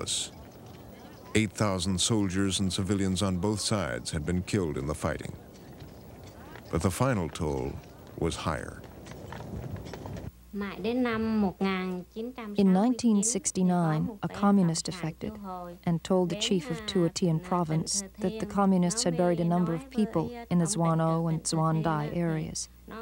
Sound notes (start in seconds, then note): 10.1 speaking Vietnamese